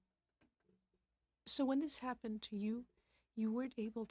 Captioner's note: speaking French